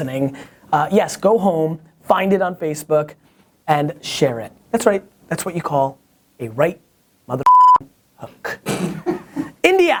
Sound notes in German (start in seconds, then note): 7.4 Piepton; 8.9 Lacht